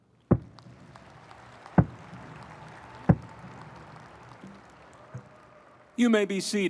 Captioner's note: audience applauding; thumping